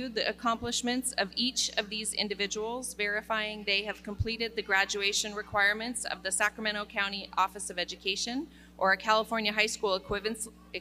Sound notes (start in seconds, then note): none